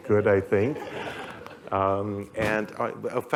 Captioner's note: laughter